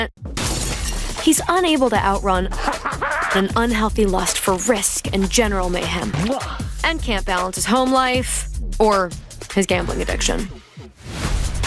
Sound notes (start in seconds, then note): 0.4 glass shattering; 2.6 cackling